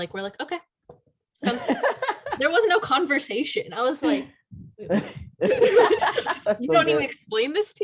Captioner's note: laughter